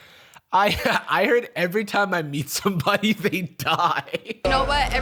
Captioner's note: laughs